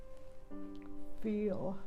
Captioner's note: voice wavers